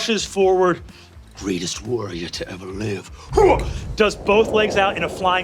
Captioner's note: grunts